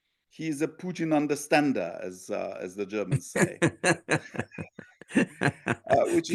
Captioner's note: laugh